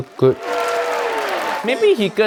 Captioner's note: crowd cheers